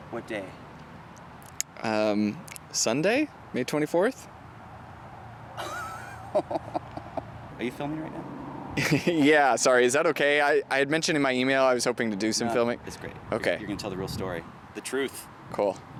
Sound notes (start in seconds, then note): 5.6 Anubis chuckling